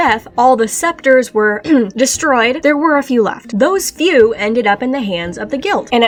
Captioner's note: ahem